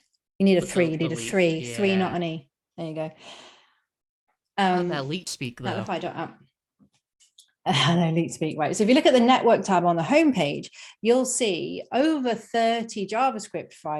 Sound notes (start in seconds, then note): 4.9 laughs